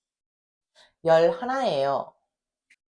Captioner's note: speaks in Korean